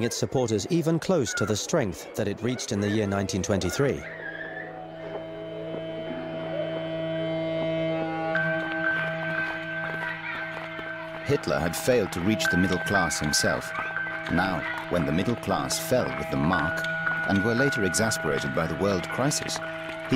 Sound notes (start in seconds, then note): 4.6 children chattering; 4.6 disheartening music